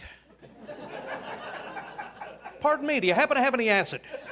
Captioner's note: audience laughing